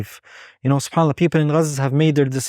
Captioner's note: speaking Arabic